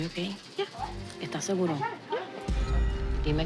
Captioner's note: speaking Spanish